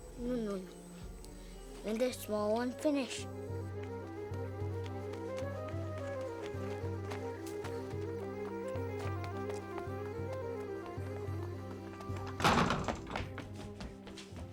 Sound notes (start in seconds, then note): 12.3 door Slams